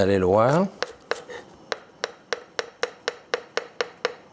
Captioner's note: knife chopping